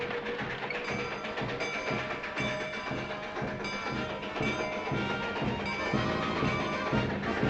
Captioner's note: train whistle; bell clanging